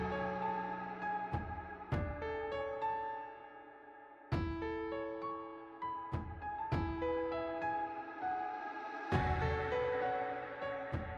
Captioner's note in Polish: Aplauz